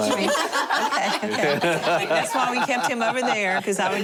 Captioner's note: laughter